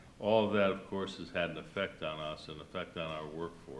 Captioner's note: none